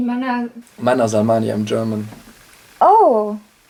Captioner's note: non-english speech